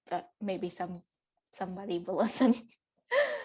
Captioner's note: laughs